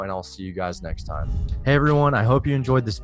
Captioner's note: air whooshing